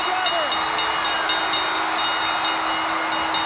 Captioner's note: bell rings